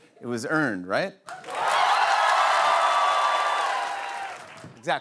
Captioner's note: cheers and applause